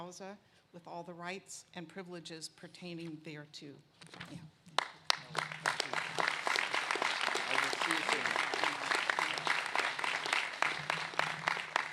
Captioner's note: applause